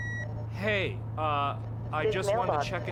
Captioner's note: beeping